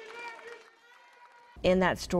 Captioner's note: group cheering and clapping